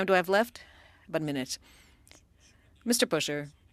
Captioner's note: speaking French